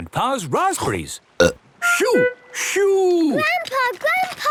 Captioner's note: seagulls cries; burp